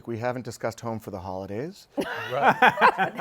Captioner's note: laughter